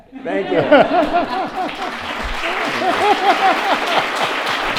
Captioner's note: audience applauds